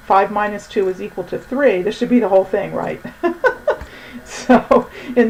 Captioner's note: laughing